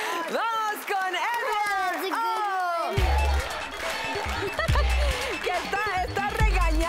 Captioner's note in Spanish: Risas